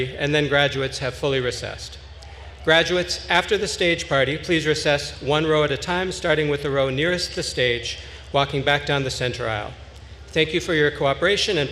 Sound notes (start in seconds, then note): none